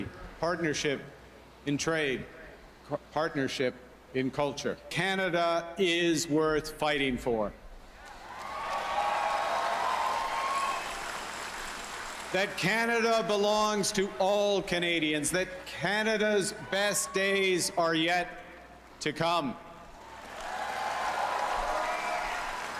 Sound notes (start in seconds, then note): 10.9 cheering and Applause